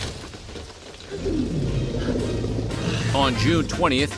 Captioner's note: rumbling vocalization